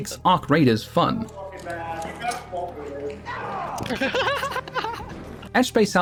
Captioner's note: laughs